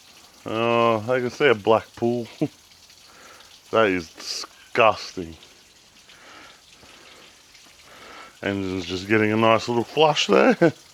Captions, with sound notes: I can see a black pool. That is disgusting. (water splashing) And it's just getting a nice little flush there.